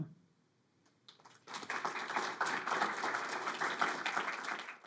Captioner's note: audience applauding